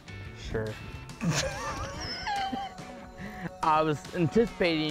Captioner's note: laughing